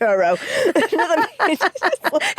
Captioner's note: both laugh